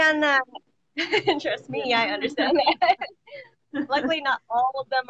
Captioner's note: laughs